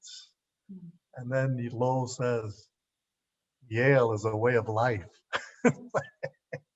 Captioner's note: laughs